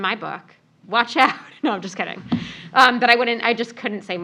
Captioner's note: laugh